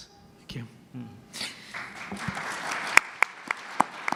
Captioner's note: applause